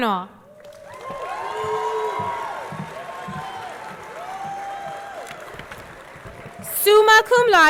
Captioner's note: audience cheering; audience clapping